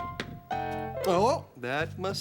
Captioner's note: knocking